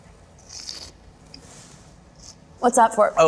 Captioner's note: slurps